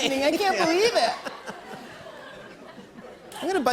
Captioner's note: laughter